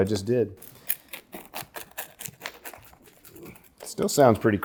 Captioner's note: pizza crunches